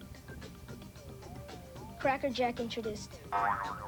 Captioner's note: boing